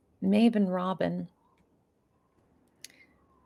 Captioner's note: none